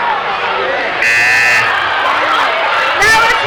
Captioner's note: buzzing